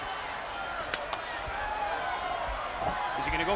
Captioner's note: crowd chattering